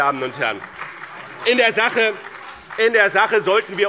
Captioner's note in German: Beifall bei dem BÜNDNIS 90/DIE GRÜNEN und der SPD